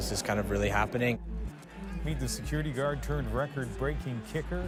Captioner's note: cheers and Applause